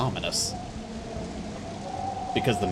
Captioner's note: howling wind